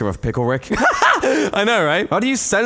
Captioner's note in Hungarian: nevetés